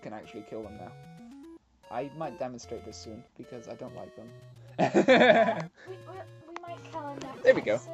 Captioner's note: laughs